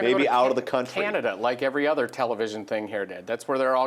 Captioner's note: voiceover